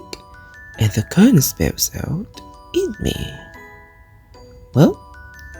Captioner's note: in a casual tone